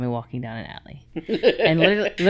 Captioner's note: laughing